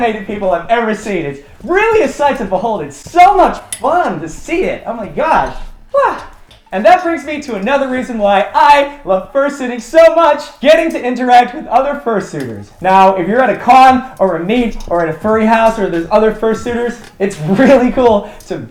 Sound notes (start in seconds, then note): 5.4 hyena noise